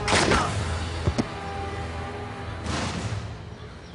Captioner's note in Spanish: Disparo